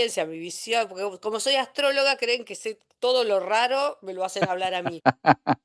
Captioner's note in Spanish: risas